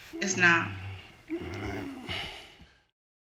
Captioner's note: groaning